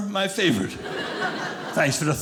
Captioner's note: audience laughing